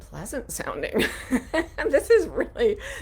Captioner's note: laughs